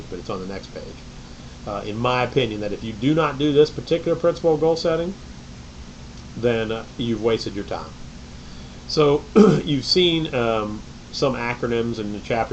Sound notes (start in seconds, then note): 9.3 clears throat